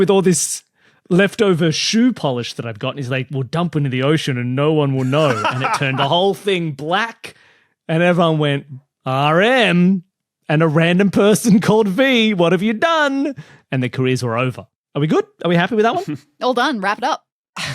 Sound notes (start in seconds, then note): 5.0 laughs uproariously; 17.5 chuckles